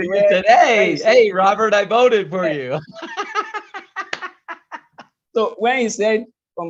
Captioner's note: laughs